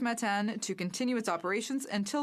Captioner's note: speaking French